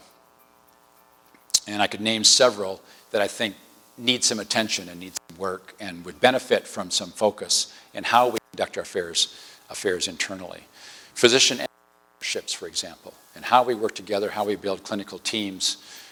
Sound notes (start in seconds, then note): 11.4 distortion